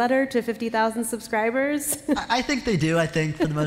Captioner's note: laughter